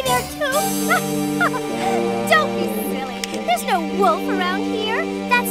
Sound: laughing

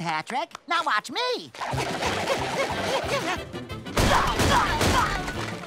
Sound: grunting

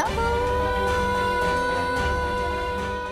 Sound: emotional vocalising

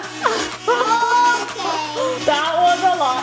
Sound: laughs

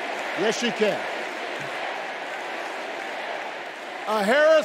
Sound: crowd chanting

